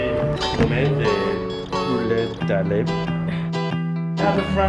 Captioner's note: english speaker reading French